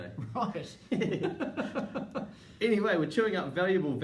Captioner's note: laughing